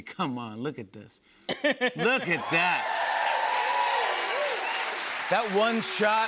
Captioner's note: cheers and applause